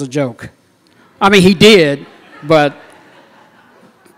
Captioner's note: laughter